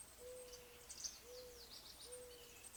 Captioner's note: birdsong